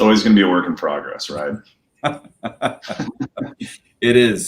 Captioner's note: laughter